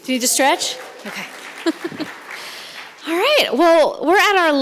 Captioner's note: audience claps; laughs